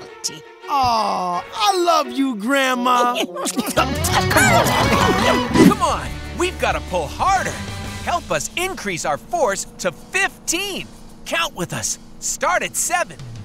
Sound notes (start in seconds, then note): 2.9 giggling